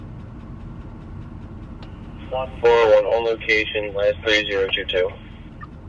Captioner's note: man On Radio